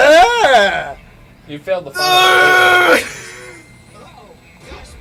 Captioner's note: groans in frustration